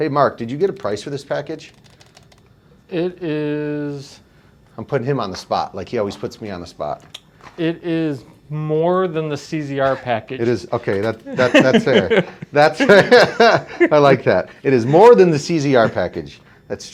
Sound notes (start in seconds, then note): 11.2 laughing